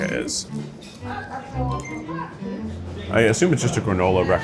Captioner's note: gentle playful music; people chattering